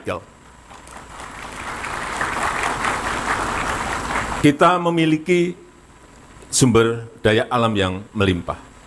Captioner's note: applause